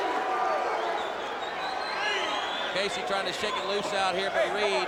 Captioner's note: crowd chatter